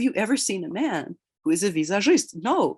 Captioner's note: speaks in Russian